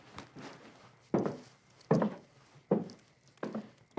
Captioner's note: footsteps